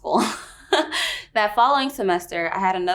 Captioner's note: laughs